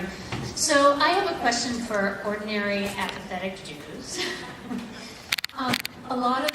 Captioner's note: laugh